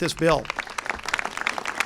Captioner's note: applause